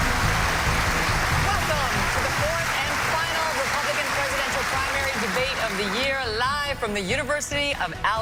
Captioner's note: applause